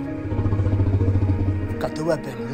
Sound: dinosaur growling

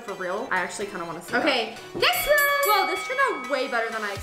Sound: bell dings

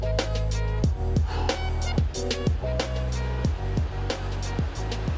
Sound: exhales

